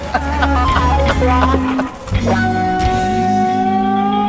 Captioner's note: loud laughing